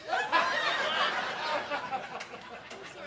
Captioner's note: audience laughing